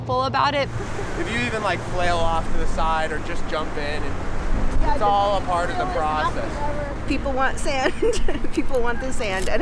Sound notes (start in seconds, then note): 7.7 chuckles